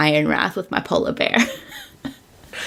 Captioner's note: laughs